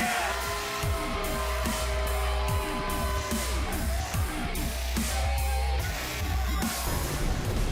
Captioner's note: cheers & boos